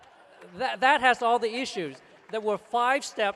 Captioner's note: applause